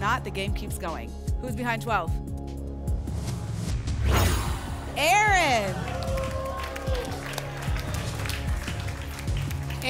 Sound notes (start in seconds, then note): 3.4 whoosh; 5.2 applause and cheering